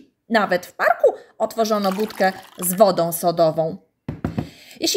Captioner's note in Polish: nalewanie